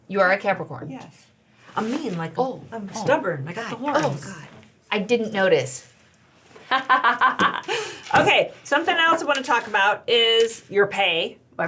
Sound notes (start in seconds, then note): 6.7 laughing